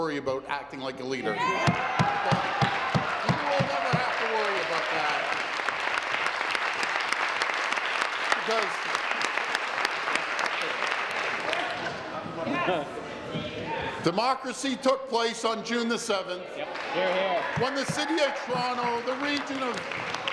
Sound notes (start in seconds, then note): 5.8 applause; 12.6 continued applause